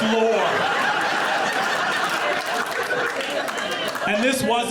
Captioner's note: audience laughing